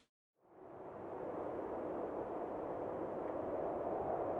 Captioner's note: wind howling